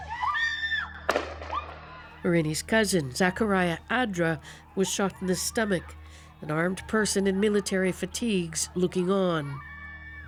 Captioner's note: screaming